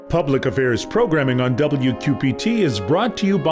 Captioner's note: voiceover